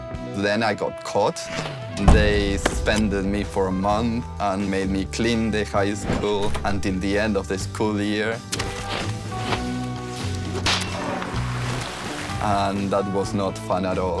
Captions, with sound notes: Then I got caught. They suspended me for a month and made me clean the high school until the end of the school year. [mop drags] [mop bucket creaks] [water splashes] And that was not fun at all.